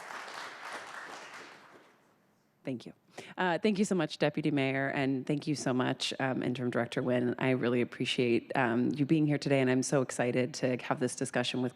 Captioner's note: applause